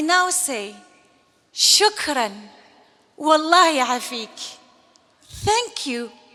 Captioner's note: speaking Algerian